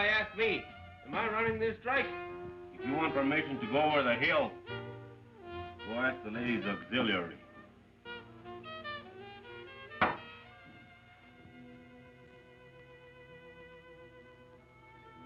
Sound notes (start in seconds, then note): 10.0 glass thuds; 12.1 melancholic music